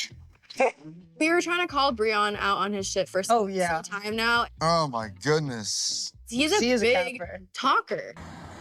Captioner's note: none